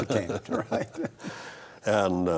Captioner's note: both laugh